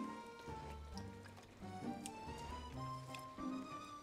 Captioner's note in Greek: ήχος νερού